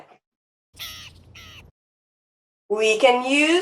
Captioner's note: raven craws